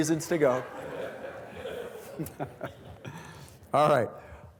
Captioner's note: students laughing